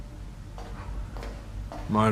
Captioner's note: footsteps departing